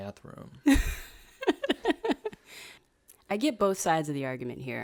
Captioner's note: laughs